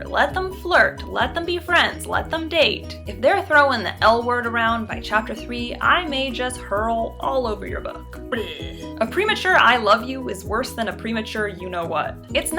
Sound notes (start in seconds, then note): 8.3 barfing noise